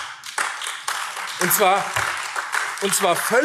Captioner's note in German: Beifall AfD